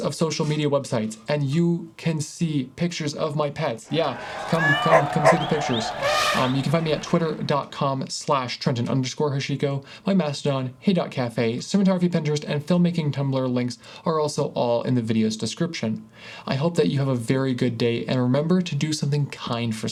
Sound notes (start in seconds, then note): 3.8 crowd Cheers; 3.9 elephant Trumpet; 4.0 dog Bark; 4.5 cat Meow